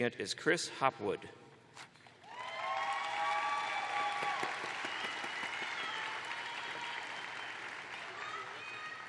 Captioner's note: cheers and applause